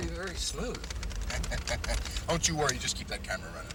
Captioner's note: laughing